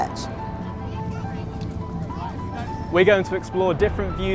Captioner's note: people chattering